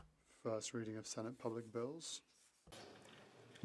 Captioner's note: speaking French